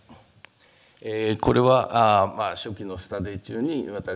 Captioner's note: speaking japanese